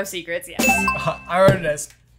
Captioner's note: bell dings